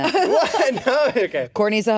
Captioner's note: laughs